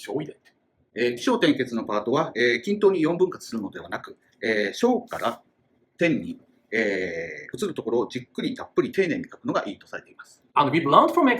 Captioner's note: speaking Japanese